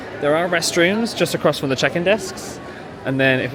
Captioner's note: none